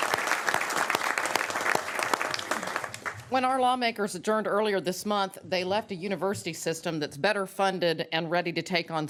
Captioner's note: applause